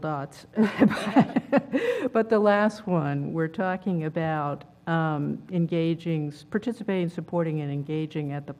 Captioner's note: laugh